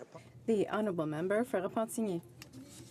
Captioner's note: speaking French